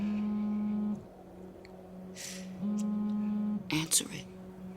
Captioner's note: phone vibrates